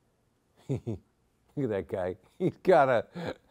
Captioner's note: chuckles